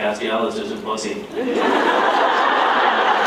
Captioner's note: laughs